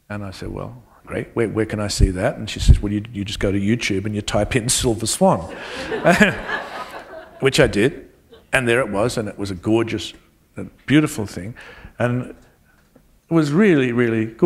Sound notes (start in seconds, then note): 5.4 laughter